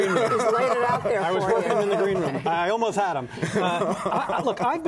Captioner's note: laughter; laughter